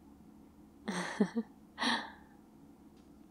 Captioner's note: laughs